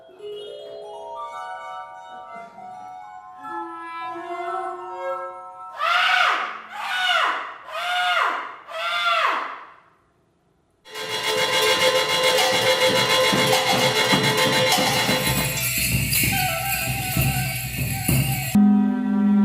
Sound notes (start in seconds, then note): 5.7 screams